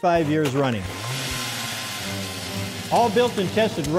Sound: drill running

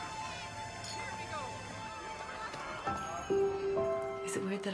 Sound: party chatter in the background

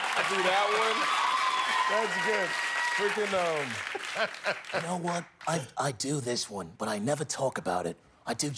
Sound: cheers and applause

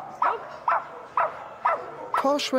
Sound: Posh barking

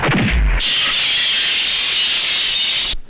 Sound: glass Breakage

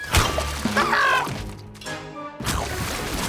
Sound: screaming

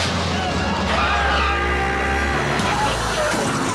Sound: counter explodes; screaming; crashing

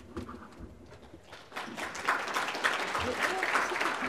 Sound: applause

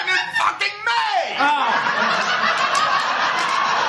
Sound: laughter; exasperated; laughter

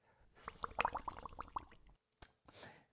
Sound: bubbles

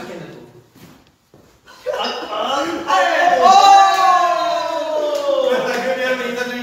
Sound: cheering

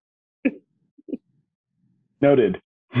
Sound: laughing

